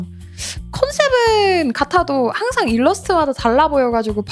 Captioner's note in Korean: 콧방귀